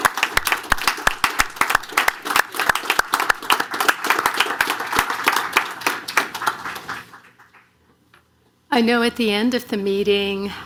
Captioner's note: applause